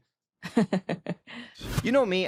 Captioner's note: chuckles